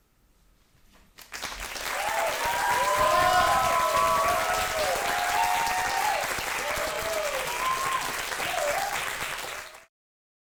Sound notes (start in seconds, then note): 1.2 audience applauds and cheers